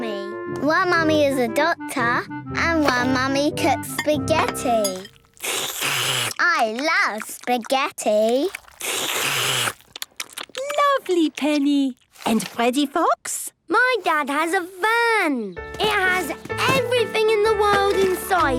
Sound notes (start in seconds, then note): 4.9 slurping; 8.4 all slurping